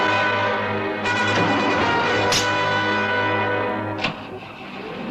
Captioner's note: engine stalling